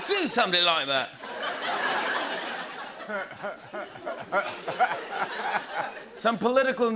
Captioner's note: laughter